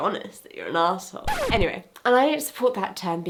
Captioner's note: record scratching